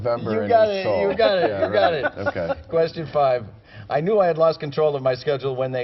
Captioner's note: laughter